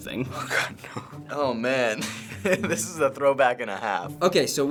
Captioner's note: chuckling